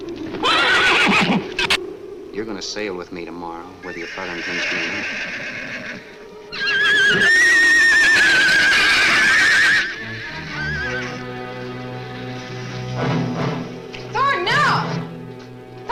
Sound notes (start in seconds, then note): 0.3 horse neighs; 6.4 shrews screech; 6.5 horse neighs wildly; 9.7 ominous orchestral music